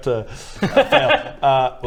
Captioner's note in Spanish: risa burlona